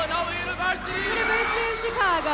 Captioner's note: audience applauding